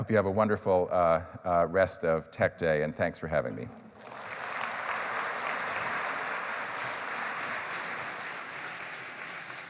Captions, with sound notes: I hope you have a wonderful rest of Tech Day. And thanks for having me. [APPLAUSE]